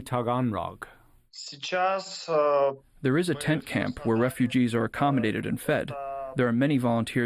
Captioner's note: through translator